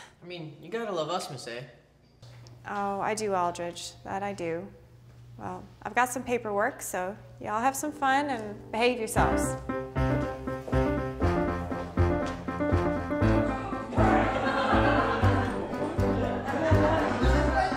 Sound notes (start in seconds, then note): 9.0 upbeat cheerful music; 14.0 students chattering